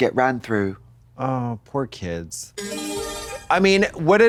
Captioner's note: bright chime